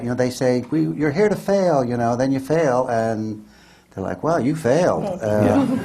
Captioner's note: laughs; laughter